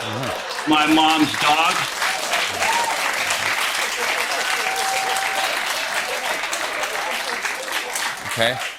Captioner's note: laughter and applause